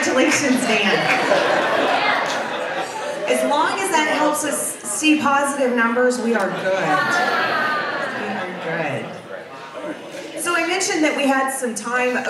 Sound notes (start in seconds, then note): 0.1 audience laughs